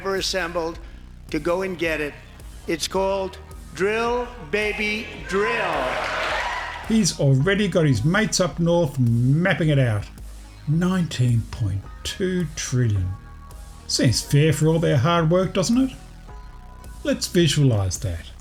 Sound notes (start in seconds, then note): 5.4 applause